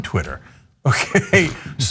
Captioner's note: laugh